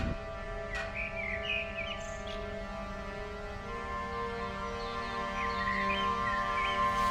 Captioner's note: suspenseful music; birds chirping